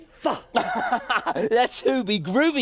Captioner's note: Groove laughs